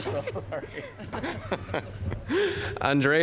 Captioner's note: all chuckling